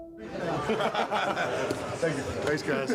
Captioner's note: group laughing